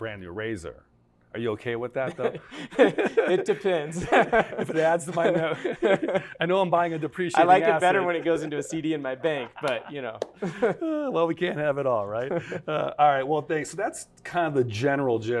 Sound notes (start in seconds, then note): 2.0 both Laugh; 11.1 laughter